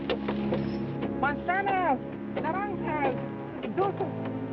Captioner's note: speaking in foreign language